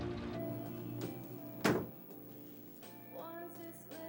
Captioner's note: soul music; door shutting